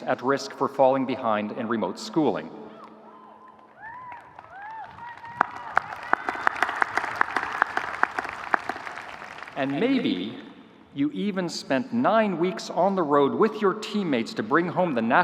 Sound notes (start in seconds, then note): 2.7 audience cheering; 3.3 audience applauding